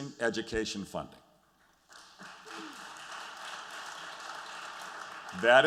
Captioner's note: applause